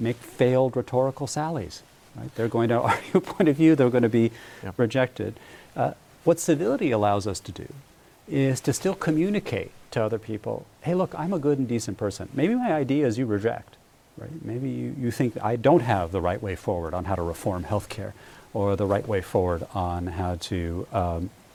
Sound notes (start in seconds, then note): 2.8 laughter